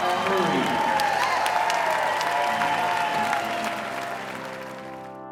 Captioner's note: cheering and applause